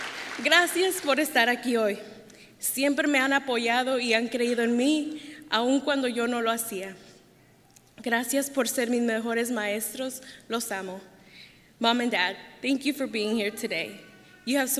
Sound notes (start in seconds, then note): 0.0 applause; 3.8 speaking Spanish